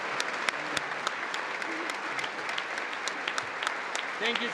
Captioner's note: congress applauding